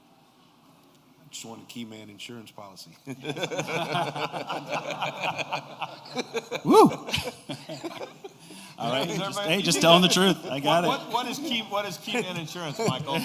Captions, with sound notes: >> I just want a key man insurance policy. [LAUGHTER] >> Just tell him the truth, I get it. >> What is key in insurance Michael?